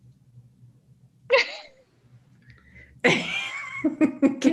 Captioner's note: laughs